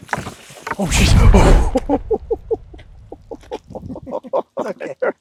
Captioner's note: laughing